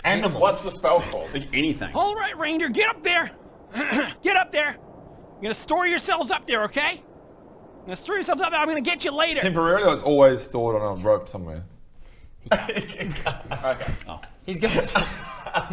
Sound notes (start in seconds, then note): 3.7 cough; 11.4 whispered